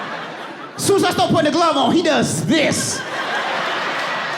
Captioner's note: audience laughing